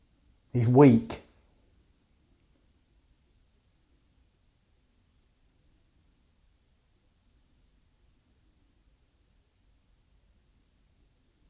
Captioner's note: silence